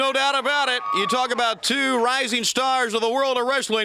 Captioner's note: crowd cheering